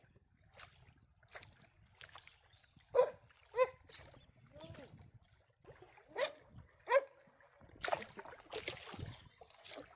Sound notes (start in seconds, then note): 2.9 barking; 6.8 barking